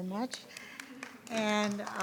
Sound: audience applauding

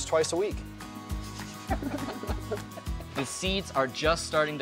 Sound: laughing

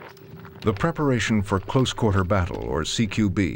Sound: voiceover

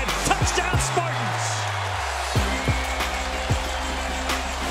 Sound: crowd cheering

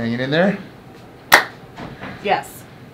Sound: clap

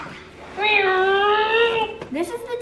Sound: mimics car engine

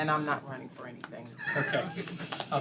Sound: laughter

